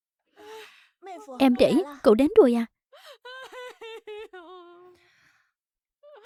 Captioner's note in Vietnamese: khóc